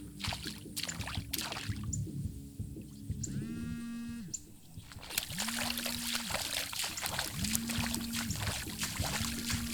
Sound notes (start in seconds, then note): 0.2 water splashing; 3.6 phone continues buzzing